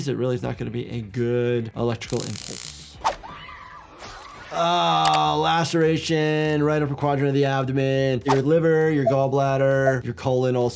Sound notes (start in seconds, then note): 3.2 Tara screaming; 3.2 dramatic music